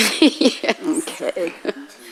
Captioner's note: woman in white laughs